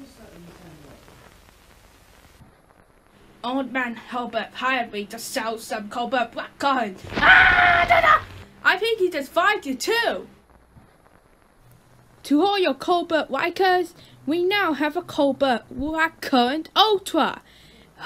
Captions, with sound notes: Old Man Hilbert hired me to sell some Colbert Blackcurrant. [flames] [screaming] I think he just fired you, too! To all your Colbert likers, we now have a Colbert Blackcurrant Ultra!